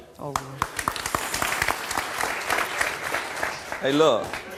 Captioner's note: applause